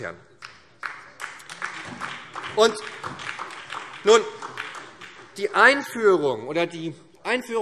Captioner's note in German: Beifall